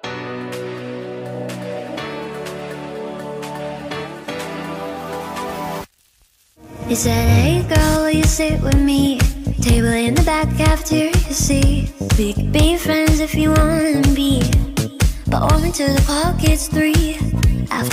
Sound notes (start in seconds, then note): 5.8 silence